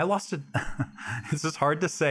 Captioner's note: Alex laughing